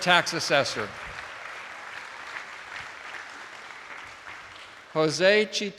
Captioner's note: attendees applauding